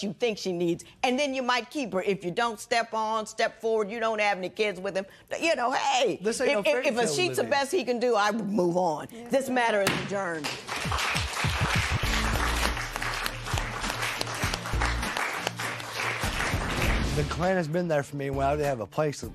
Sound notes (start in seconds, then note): 12.4 applause